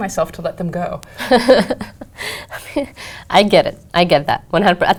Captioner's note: laugh